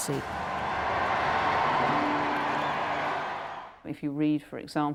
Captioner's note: crowd cheering